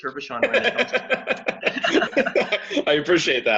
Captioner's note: both laughing